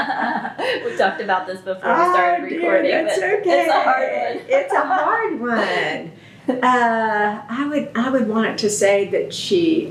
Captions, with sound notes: We talked about this before we started recording. It’s a hard one. (Laughter) It’s okay. It’s a hard one. I would want it to say that